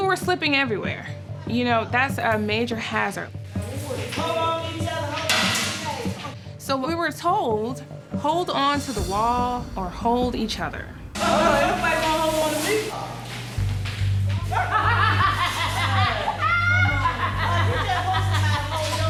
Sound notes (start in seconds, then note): 14.5 woman laughs